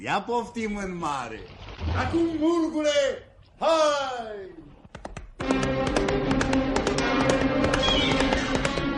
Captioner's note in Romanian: Aplauze